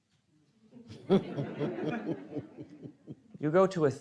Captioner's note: audience chuckling